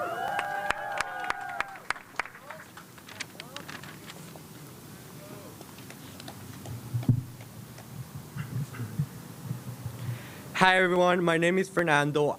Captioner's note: cheers and applause